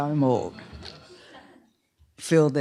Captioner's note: laughter